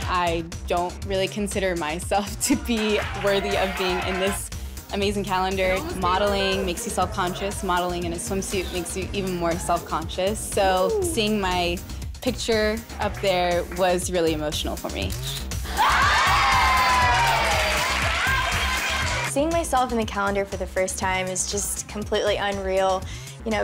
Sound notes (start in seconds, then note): 15.6 crowd exclaims